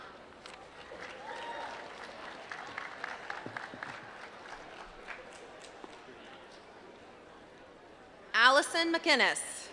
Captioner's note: applause